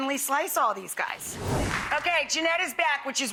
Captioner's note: air whooshing